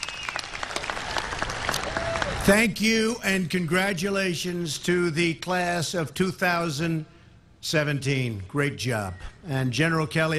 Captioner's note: applause